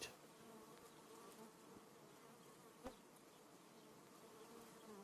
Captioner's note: bees hum